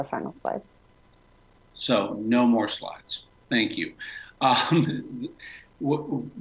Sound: laughter

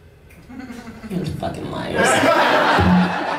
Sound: laughs; laughter

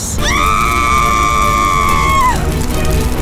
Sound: screaming

